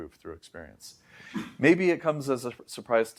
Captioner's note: inhales